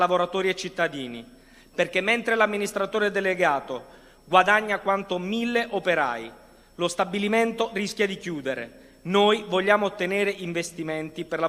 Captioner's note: speaking non-english language